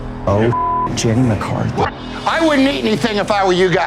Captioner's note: beep